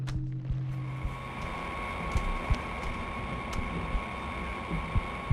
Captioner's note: machinery whirring